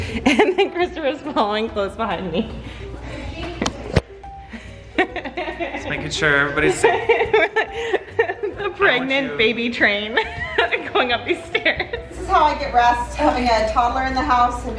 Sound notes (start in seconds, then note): 4.5 laughing